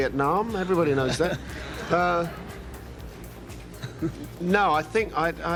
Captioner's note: audience laughs